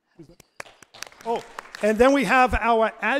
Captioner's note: audience applauds